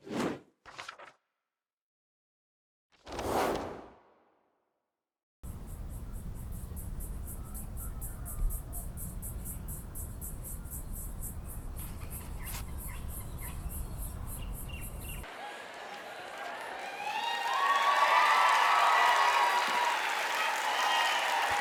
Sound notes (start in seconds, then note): 0.2 screen whooshing; 5.6 insects chirping; 12.3 birds chirping; 17.2 audience cheering and applauding